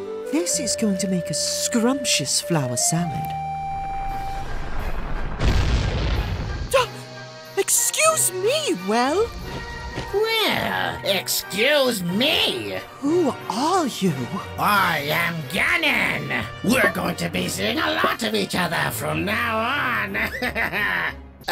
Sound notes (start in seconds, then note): 4.1 the well explodes; 19.2 laughs